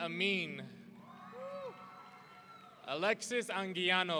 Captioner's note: audience cheering